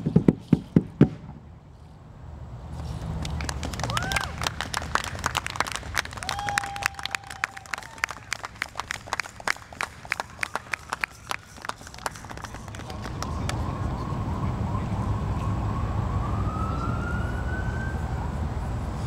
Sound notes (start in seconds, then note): 3.8 audience applauding and cheering; 13.0 murmurs